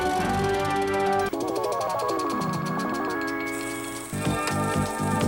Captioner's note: upbeat music; projector clicking